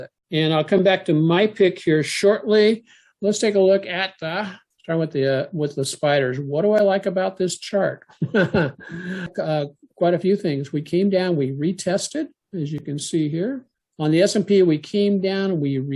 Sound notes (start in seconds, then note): 8.1 laugh